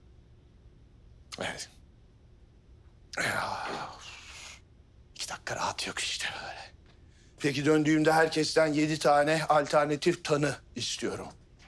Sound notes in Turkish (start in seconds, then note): none